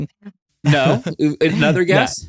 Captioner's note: laughs